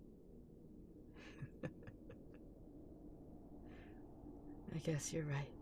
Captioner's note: laugh